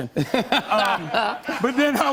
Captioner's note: laughter